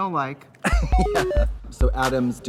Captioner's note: laughs; fun music